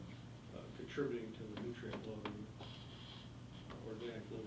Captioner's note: faintly speaking